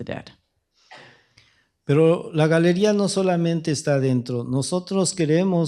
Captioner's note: speaking spanish